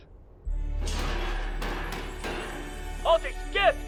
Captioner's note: clang